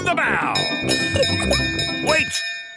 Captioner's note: bell chimes